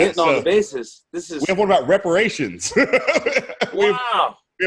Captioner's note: laughs